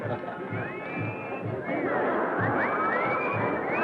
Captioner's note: crowd whistling